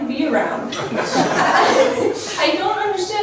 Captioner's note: laughs